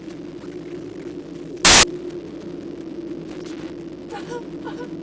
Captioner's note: glitch sound; woman's wailing lament